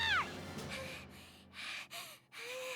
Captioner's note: panting